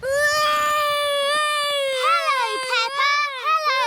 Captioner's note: continues wailing